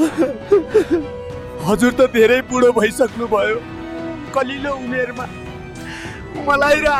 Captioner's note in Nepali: हास्य